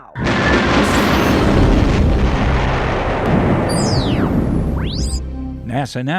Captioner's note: sound Effects